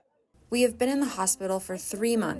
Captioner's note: through translator